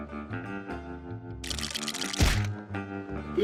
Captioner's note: rattling